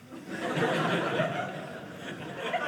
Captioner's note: audience laughing